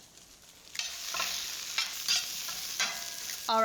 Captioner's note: sizzling